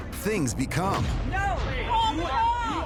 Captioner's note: indistinct chatter